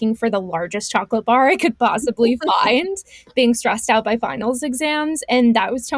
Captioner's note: laughs